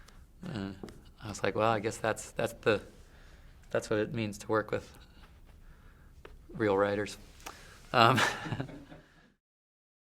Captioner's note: laughs